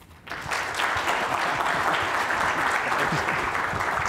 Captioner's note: applause